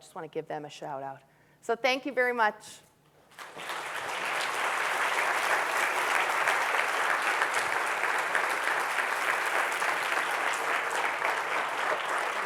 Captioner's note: audience clapping